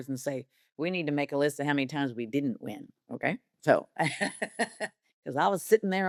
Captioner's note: laughs